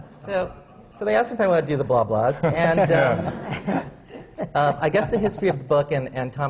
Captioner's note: laughter